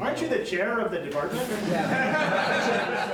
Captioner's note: laughter